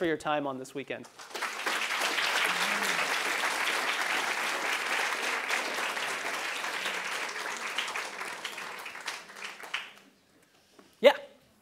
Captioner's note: applause